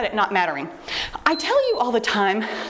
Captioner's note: timer beeps